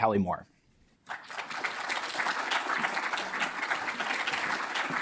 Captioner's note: audience applauding